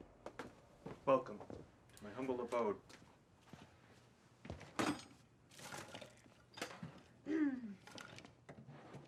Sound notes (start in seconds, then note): 7.3 clears throat